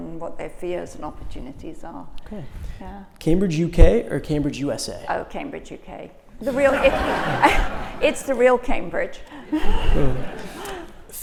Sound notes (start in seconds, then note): 6.5 audience laughs; 9.4 laughter